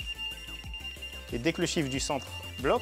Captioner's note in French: bips